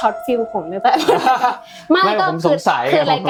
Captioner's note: laughs